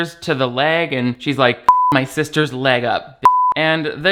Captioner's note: beep